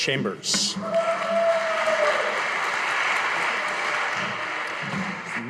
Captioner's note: audience applauding